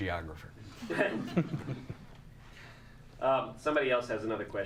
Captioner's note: audience chuckles